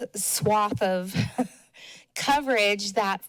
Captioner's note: chuckles